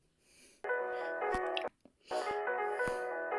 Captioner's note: ringtone plays; ringtone keeps playing